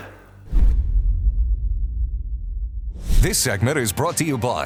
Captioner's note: logo thuds